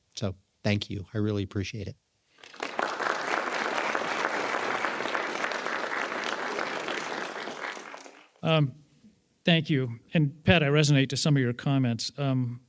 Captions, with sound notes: So thank you. I really appreciate it. (attendees applauding) - Thank you. And, Pat, I resonate to some of your comments.